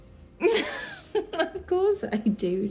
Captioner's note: Diana laughing